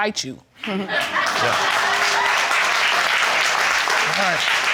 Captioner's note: audience applauding